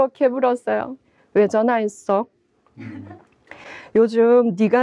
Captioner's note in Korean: 웃음